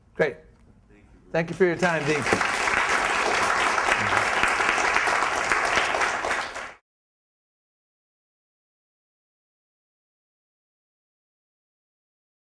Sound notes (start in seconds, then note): 1.7 applause